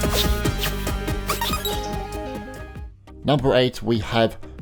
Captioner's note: electronic chiming